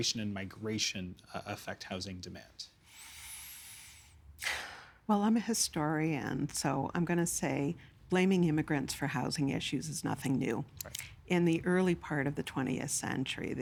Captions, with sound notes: and migration affect housing demand? (Inhaling, exhaling) Well, I'm a historian. So, I'm going to say blaming immigrants for housing issues is nothing new. Right. In the early part of the 20th century,